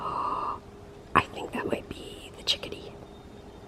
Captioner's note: gasps; whispers